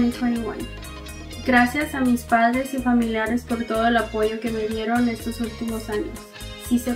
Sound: speaks in foreign language

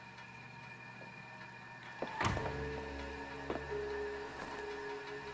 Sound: metal clanking; ominous music

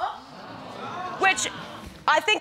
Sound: audience gasping

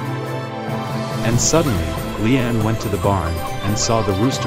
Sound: hen clucks

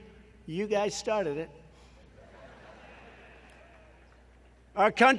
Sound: laughter

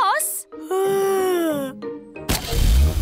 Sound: yawns

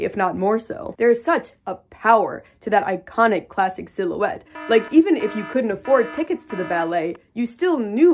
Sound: alarm blaring

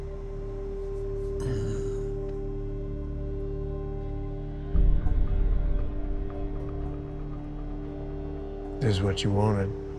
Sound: groans

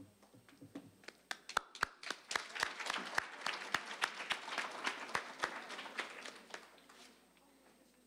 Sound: applause

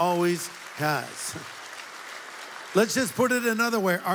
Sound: audience applauds

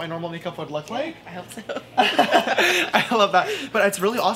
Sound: both laugh

